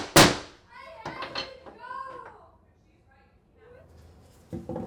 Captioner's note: child babbles